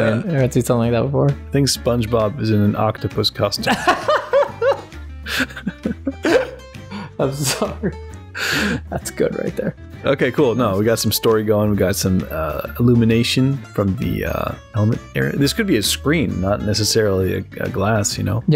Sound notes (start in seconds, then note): 5.3 laughter